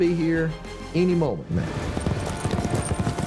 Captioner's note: horses running